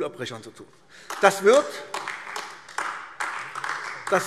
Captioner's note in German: Beifall AfD